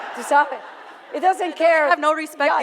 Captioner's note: foreign language